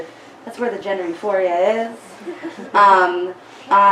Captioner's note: audience giggles